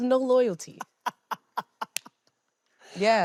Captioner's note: laughing